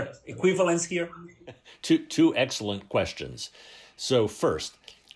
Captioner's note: laughter